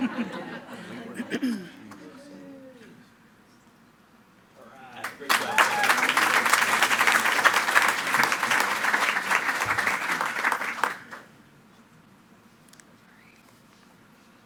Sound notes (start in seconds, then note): 0.0 attendees laughing; 5.0 attendees cheering and clapping